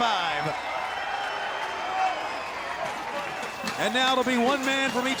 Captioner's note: crowd cheering